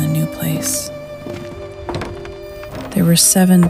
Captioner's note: steps on the gravel and on the wagon steps